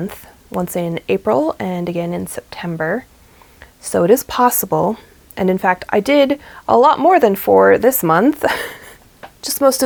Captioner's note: laughs